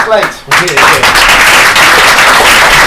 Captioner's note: applause